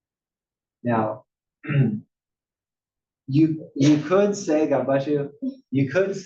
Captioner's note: cough